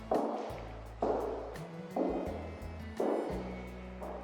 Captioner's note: foot Steps